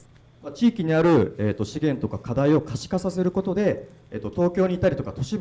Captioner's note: speaking foreign language